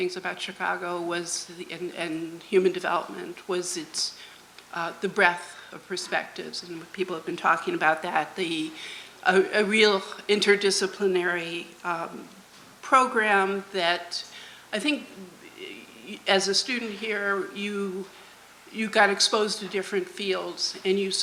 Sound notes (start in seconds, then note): none